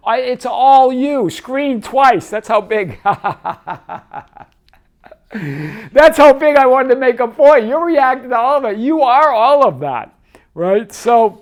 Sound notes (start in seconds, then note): 2.8 laughing